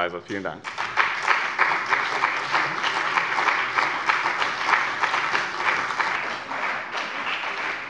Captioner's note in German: Beifall bei dem BÜNDNIS 90/DIE GRÜNEN und der CDU